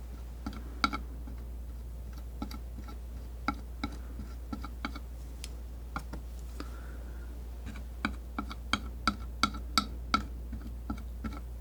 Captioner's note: tapping